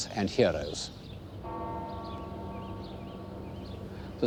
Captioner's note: bell tolls